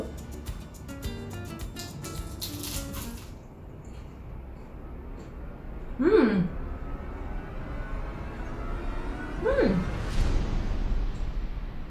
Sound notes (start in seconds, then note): 2.2 loud crunch; 6.6 dramatic music